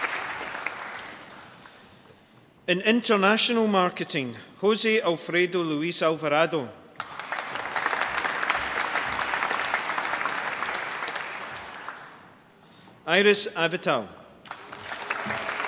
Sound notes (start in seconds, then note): 6.9 applause